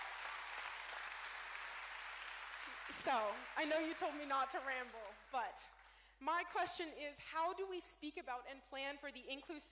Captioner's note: cheering